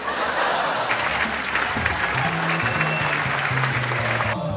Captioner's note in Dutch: Applaus